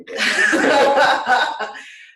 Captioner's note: laughter